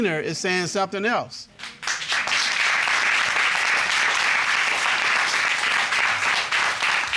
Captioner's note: applause